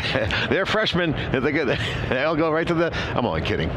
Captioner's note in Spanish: risas